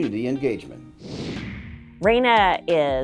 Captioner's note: computer whooshing